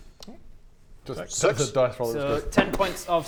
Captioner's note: thud